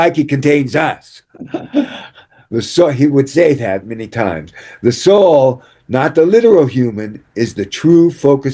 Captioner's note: laughter